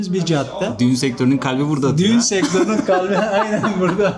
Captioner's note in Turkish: kahkaha